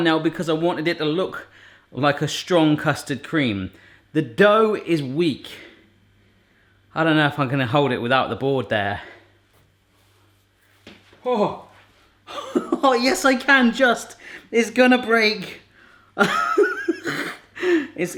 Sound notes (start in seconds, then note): 12.3 laughs; 16.2 laughs